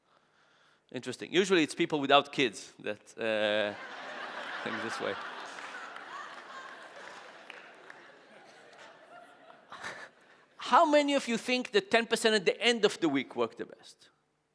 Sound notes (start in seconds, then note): 3.6 audience laughing